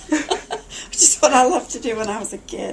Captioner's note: laughter